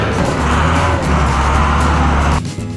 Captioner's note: dump Truck Engine Sound